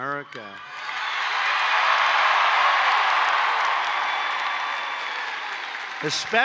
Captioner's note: applause